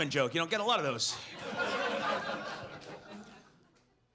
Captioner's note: audience laughs